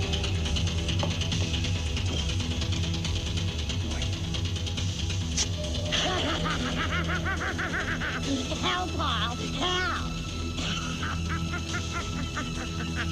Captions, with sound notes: (man laughing wildly) - How Paul, how?